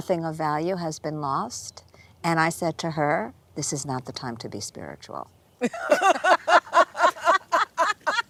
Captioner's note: laughter